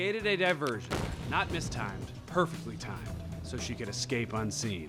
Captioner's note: explosion booms